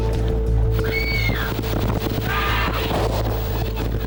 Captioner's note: dramatic music; teenagers screaming; dramatic music